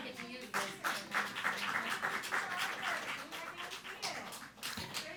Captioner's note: audience applauding